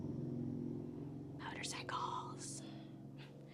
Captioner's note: whispers